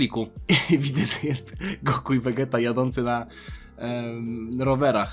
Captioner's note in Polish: śmiech